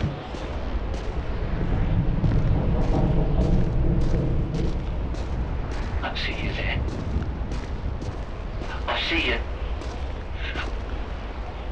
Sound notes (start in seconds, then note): 1.1 faint metallic creaking